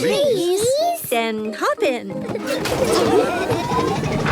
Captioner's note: laughing